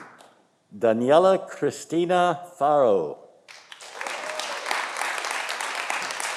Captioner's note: audience applauding